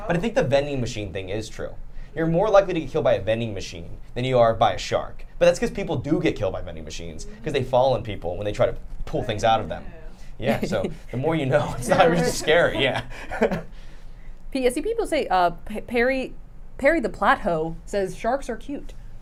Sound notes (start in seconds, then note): 15.1 laughs